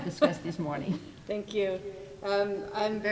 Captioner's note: laughing